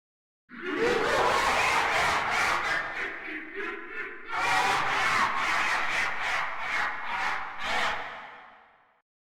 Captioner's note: creepy Laughter